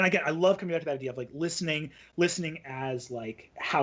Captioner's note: none